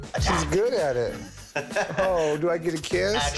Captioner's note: laughs